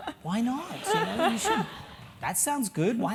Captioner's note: laugh